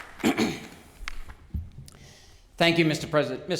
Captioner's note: clears throat